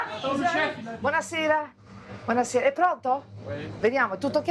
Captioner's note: speaks in Italian